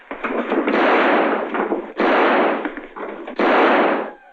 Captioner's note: gunshots